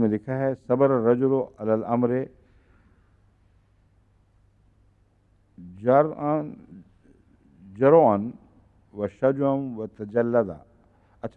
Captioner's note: Arabic